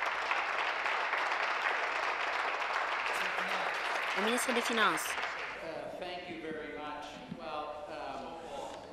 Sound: applause

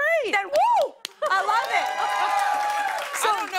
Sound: cheers and applause

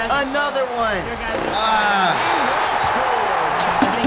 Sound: groans

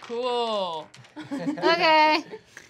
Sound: laughing

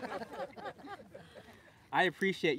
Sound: laughter

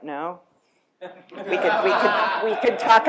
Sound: laughter

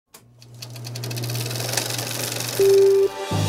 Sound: film projector starts up; uptempo music begins

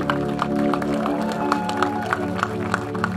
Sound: cheering

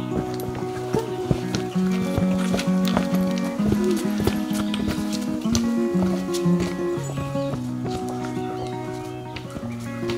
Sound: footsteps

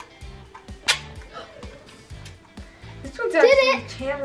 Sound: gasps

